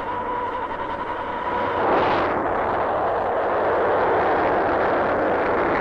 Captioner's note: machinery whirring; rocket rumbling